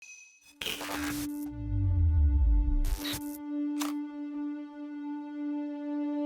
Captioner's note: buzzes hiss and trill; soft tense music